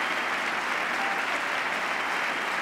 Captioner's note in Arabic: تصفيق